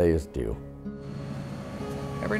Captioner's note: train passing